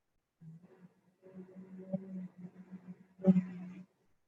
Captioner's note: humming